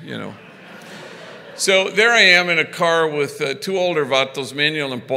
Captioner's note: foreign language